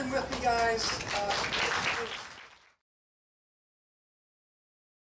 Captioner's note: audience applauding